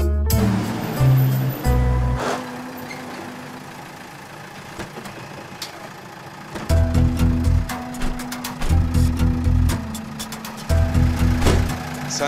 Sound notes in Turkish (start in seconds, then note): 0.2 Araba sesi; 4.6 Kapı açılma sesi; 7.8 Kapı kapanma sesleri; 11.3 Kapı kapanma sesi